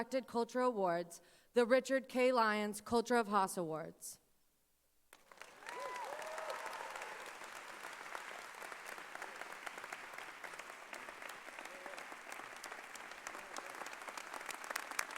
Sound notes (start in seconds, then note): 4.9 cheering and applause